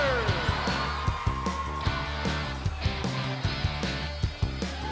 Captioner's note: audience cheering